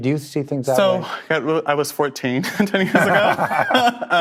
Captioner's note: laughs